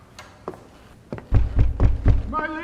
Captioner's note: footsteps; banging on door